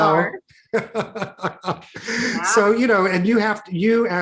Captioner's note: laughs